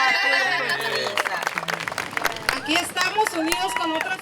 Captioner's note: applause